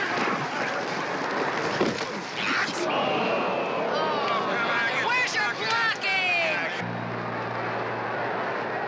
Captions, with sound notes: [crowd booing] Where's your blocking?